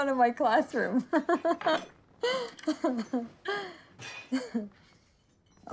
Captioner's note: laughing